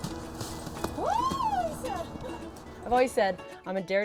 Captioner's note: squeals